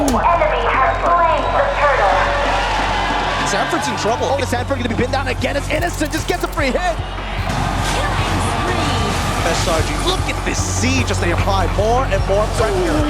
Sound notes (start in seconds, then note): 0.3 cheering, applauding; 7.0 crowd cheering, applauding